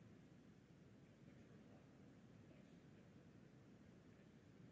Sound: speaking softly

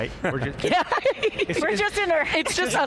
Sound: all laughing loudly

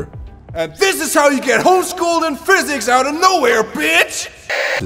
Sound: yelling

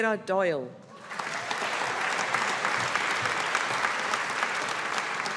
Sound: audience applauding

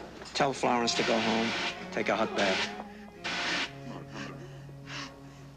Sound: distant sirens approaching

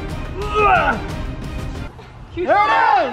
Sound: grunts

